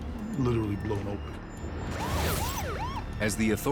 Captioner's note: sirens